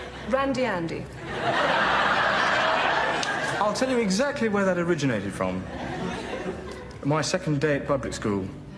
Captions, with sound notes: Randy Andy. (laughter) I'll tell you exactly where that originated from. My second day at public school.